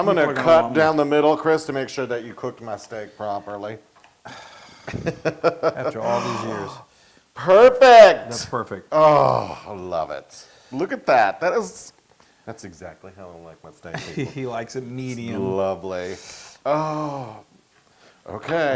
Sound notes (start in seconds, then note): 4.3 laugh